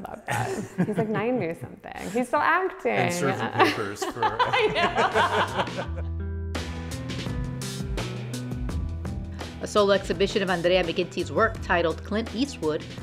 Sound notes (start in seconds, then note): 3.0 laughs; 6.1 both laughing